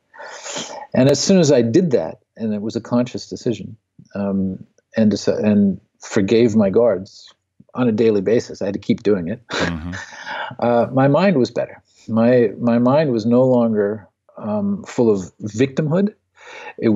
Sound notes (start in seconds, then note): 9.5 laughs